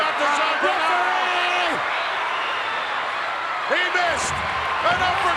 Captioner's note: crowd chattering